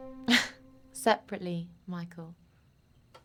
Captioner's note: laughs